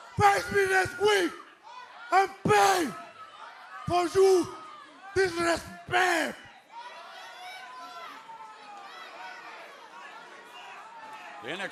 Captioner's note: speaking spanish